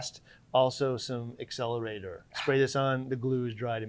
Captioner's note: sighs